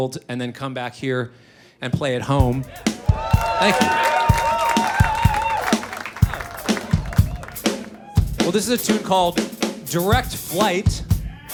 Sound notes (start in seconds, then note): 3.1 audience cheers; 5.2 audience cheering; 5.2 lively drum music